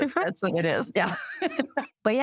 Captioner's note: laughter